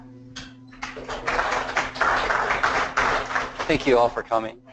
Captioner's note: applause